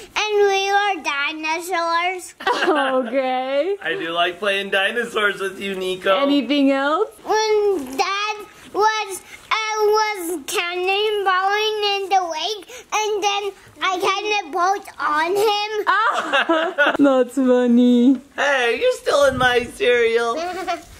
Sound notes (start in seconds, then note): 2.4 laughs; 2.4 laughing; 15.5 laughing; 20.4 giggling